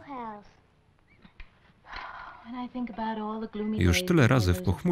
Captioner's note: sighs